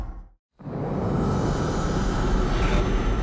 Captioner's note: ominous whooshing